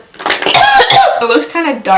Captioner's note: coughs